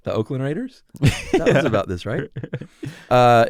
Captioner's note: laughs